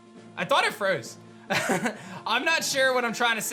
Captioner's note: chuckles